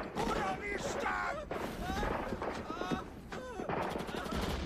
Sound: screaming and gasping

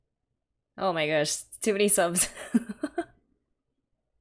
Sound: laughs

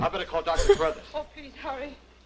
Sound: laughs

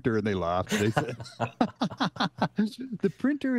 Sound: everyone laughing

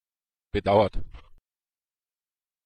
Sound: fast Pronunciation

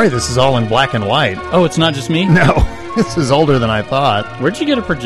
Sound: laughs

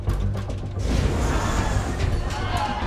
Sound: engine roaring; passengers screaming

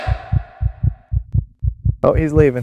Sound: heart thumping

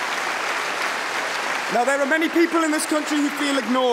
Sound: cheering & Applause

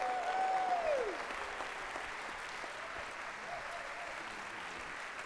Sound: audience clapping and cheering

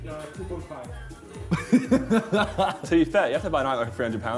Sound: laughing

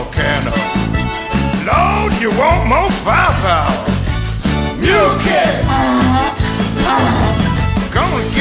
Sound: hee-Haw, hee-haw

